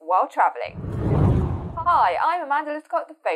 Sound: screen whooshing

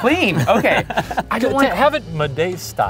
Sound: laughing

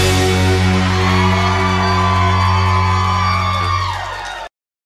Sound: audience cheering

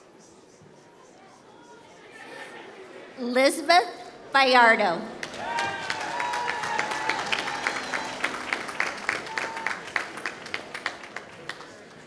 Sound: applause

